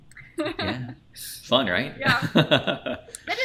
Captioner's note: laughs